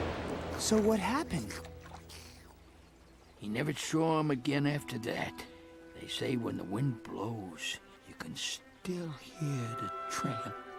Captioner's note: as a wind blows some leaves, the dogs hear some howling from nowhere